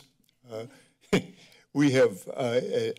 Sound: chuckles

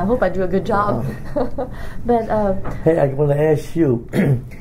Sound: laughs; coughs

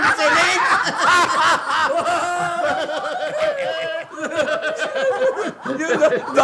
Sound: all laugh uproariously

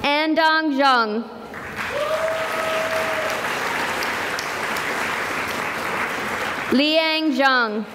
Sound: cheering and applause

